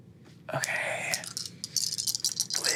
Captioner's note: dice clinking